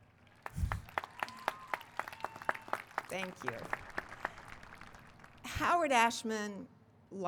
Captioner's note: applause